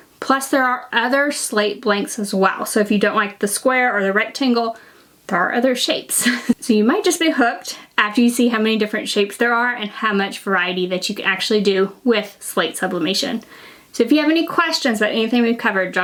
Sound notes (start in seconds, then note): 6.2 chuckles